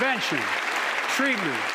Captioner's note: applause